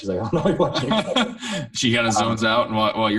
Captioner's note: laughing